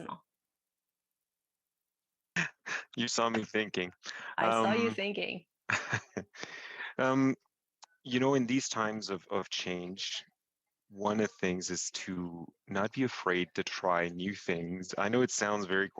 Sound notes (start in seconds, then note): 2.4 laugh; 5.7 laugh